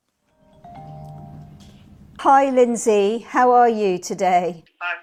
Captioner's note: phone ringing